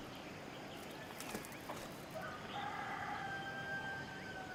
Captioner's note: rooster crows